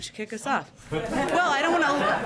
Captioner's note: laughter